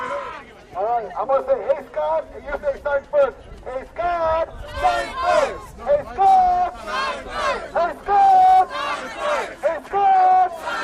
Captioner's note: chanting